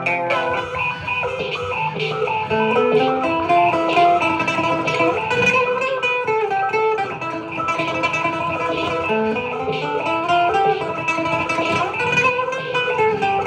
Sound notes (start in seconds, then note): none